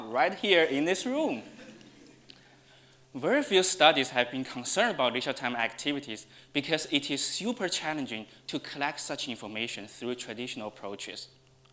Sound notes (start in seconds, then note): 1.4 audience laughs